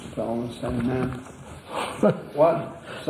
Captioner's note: laughs